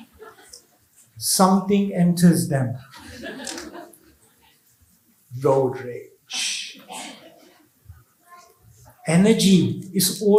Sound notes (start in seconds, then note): 2.9 laughs